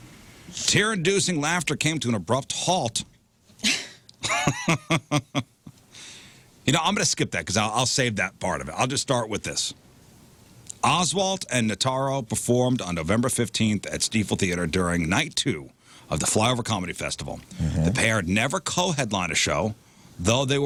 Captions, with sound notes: Tyrr-inducing laughter came to an abrupt halt. (Laughing) You know, I'm gonna skip that because I'll save that part of it. I'll just start with this. Oswalt and Notaro performed on November 15th at Stiefel Theater during night two of the Flyover Comedy Festival. The pair never co-headline a show, though they